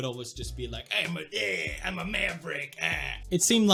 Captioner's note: makes noises in Swedish